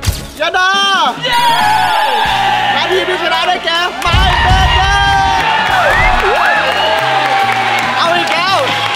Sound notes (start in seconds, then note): 5.7 applauding; 5.7 cheering